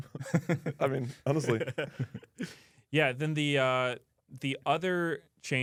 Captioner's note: laughs